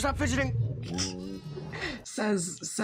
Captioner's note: snickers